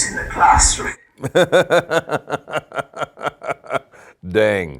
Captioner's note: laughter